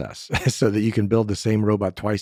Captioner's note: laughs